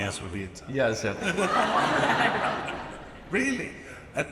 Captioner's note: audience laughs